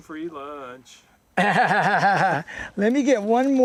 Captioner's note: laughter